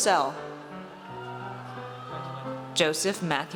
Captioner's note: audience cheers